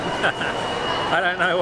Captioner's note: cackles gleefully